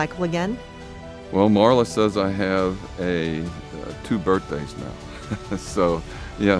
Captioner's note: laughs